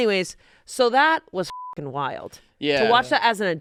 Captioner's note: beep